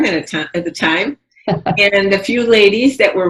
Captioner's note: laughs